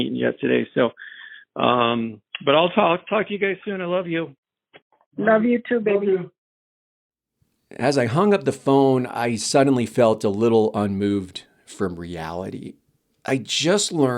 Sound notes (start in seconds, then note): 6.5 on phone